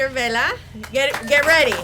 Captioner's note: audience applauds